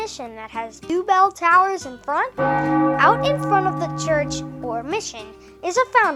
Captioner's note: bong!